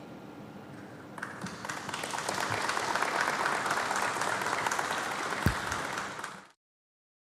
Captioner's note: applause